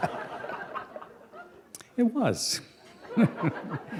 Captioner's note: laughter